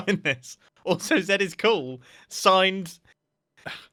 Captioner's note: sighs